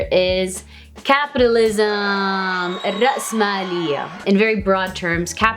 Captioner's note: people cheering; speaks Arabic